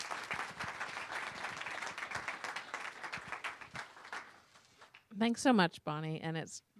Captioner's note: applause